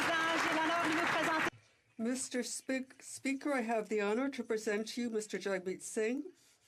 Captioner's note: applause